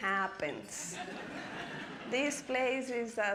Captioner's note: audience laughing